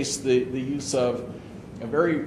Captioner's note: none